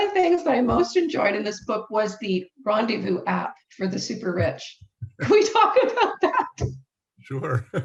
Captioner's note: laughs